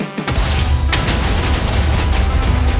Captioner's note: explosion sounds